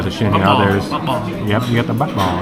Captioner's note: speaking Vietnamese